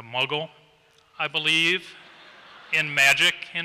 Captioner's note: laughter